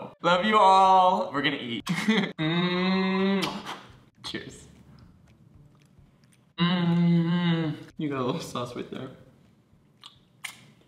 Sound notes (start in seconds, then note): 3.3 blowing kiss